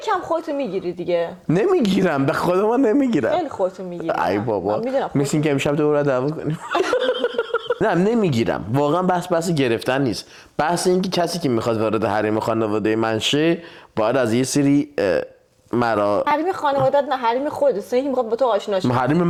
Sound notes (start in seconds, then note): 6.5 laughs